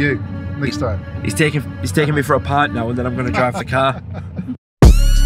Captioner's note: laughing